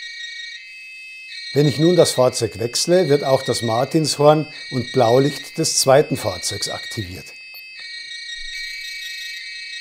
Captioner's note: siren